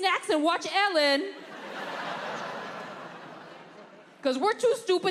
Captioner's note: audience laughing